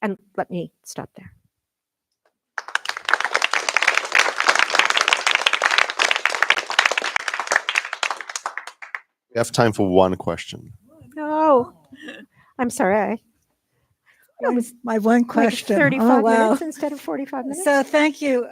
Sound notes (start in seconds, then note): 2.5 applause